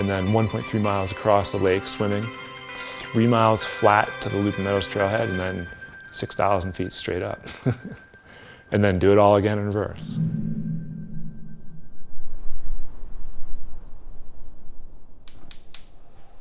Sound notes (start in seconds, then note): 7.4 laughing